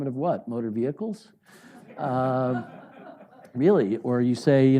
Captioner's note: audience laughing